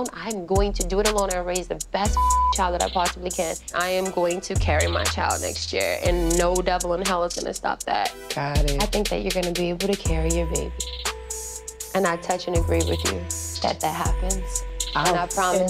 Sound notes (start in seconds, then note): 2.1 beep